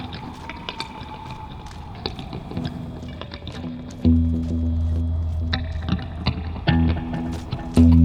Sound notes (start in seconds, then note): 1.7 wind blowing